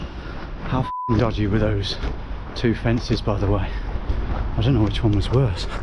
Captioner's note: beep